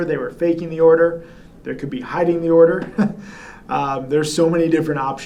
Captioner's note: chuckles